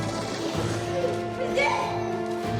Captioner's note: hysterical scream; snakes hiss